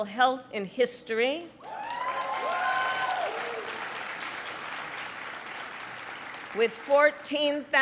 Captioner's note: applause